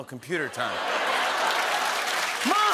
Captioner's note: laughter and applause